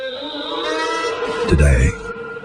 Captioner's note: man screaming